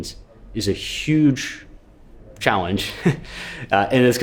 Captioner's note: chuckling